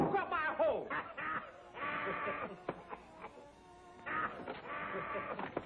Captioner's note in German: lacht